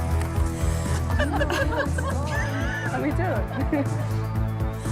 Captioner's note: laughter